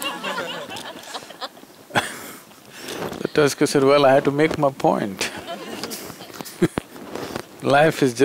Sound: laughter; laughter

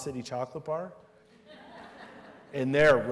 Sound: laughter

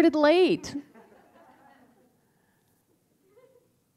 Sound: laughter

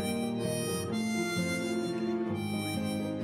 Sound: none

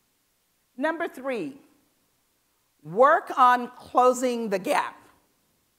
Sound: none

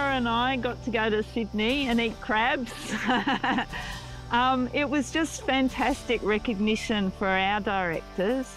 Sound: laughs

